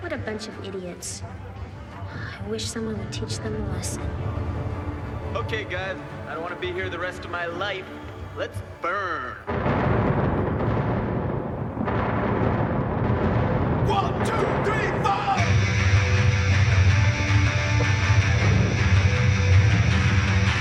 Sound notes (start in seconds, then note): 2.1 scoffs; 9.6 thunder rumbling